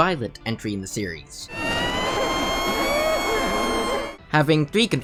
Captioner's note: dying baby screaming